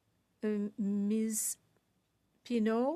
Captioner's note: speaking French